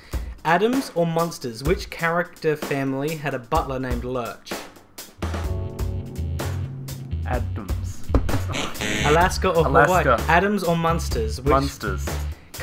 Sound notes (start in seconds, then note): 8.5 buzzer